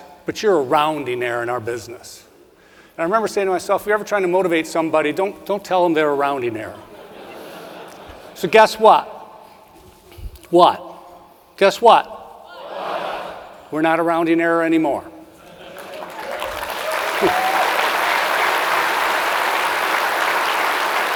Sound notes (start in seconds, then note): 6.9 audience laughs; 15.6 audience cheering and applauding